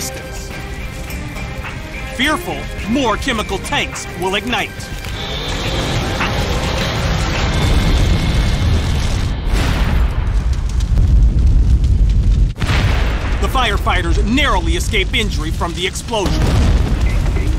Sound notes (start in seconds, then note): 7.0 explosion